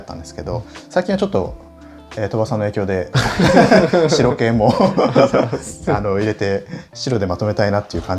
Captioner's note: laughs